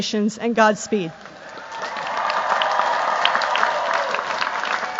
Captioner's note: cheers, applause